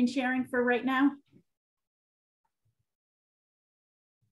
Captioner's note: silence